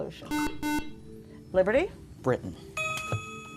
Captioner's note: ding